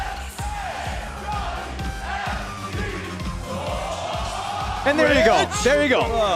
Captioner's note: fans chanting